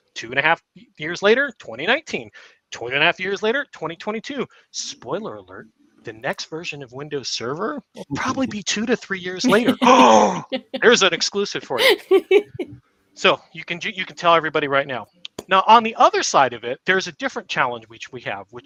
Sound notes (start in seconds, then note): 9.4 laughs; 10.1 gasps